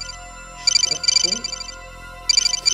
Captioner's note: phone rings